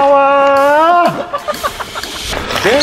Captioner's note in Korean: 웃음소리